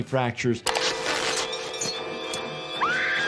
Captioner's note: fabric tearing; intense music; woman screaming